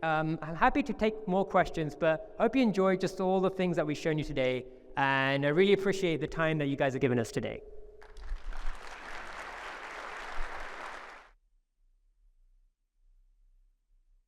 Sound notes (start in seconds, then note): 8.0 audience applauding